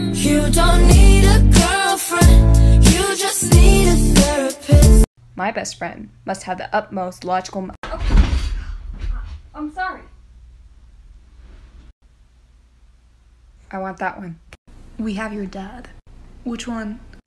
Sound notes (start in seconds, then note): 7.5 crashing